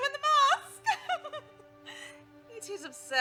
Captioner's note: laughs